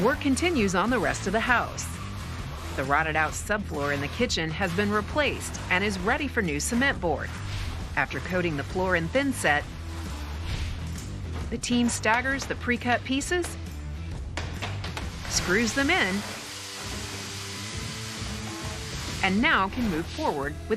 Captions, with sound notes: - Work continues on the rest of the house. The rotted out subfloor in the kitchen has been replaced and is ready for new cement board. After coating the floor in thinset, the team staggers the pre-cut pieces, screws them in, (machine whirring) and now can move forward